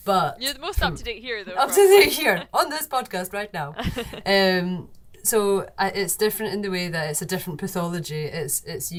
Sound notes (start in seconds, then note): 3.6 laughs